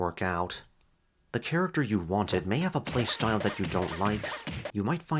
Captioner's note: Banjo-Kazooie spamming eggs